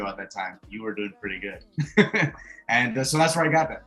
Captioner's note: chuckles